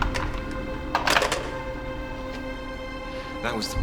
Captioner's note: phone clicking